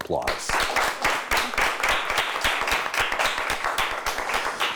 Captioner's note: audience applauds